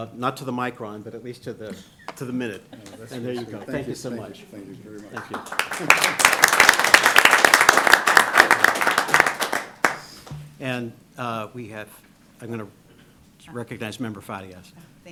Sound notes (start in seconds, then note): 4.9 applause